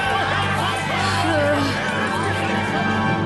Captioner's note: cheers and clamouring; nervous sigh